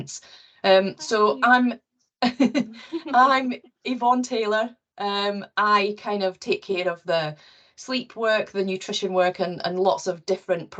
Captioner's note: laughs